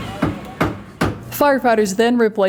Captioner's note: hammer strikes